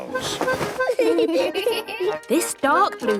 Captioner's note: giggling